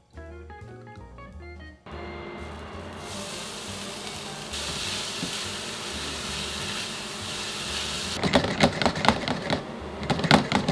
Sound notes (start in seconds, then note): 3.1 sizzling; 8.3 pan shaking